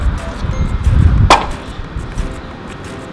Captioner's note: pop